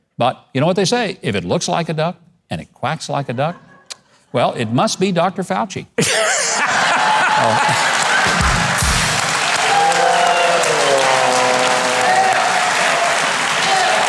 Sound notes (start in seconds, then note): 6.1 audience laughing; 7.1 audience clapping; 8.2 trombone slide